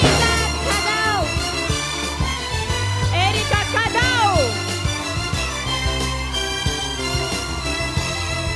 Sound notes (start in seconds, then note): 3.4 applause